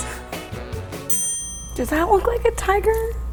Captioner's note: bell rings